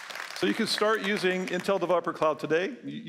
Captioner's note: applause